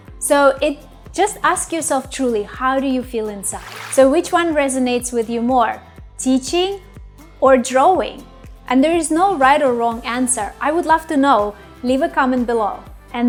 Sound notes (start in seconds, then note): 3.4 paint splashes